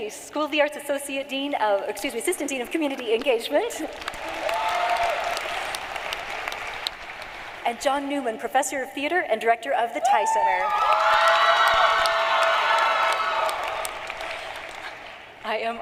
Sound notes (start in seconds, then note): 0.2 cheering and applause; 7.8 applause